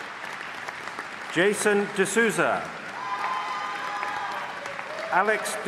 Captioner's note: applause